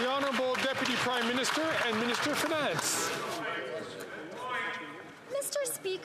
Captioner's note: some Applause